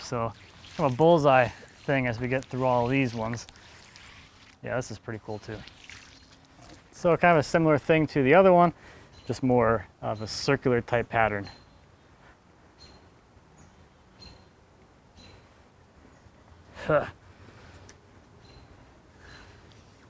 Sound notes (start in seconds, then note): 6.0 water sploshing; 13.0 birds chirping; 16.8 laughing